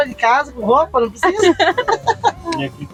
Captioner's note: laughter